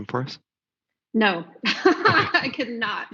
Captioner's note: laughs